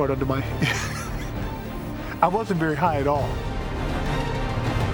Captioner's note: laughs